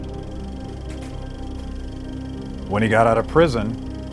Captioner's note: film rolling